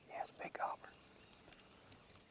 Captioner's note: whispered